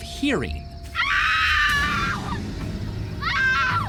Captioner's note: woman screaming